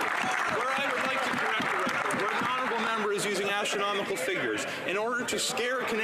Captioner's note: some Applause